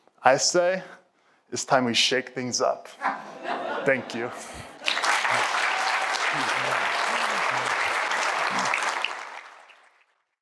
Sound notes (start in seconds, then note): 4.7 applause